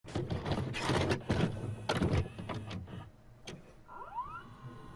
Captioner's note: VHS tape being loaded into a VCR